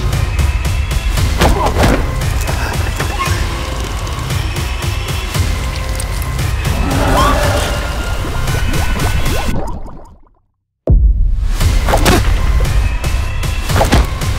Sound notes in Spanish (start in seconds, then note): 6.5 monster voice